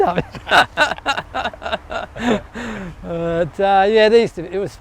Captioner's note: laughs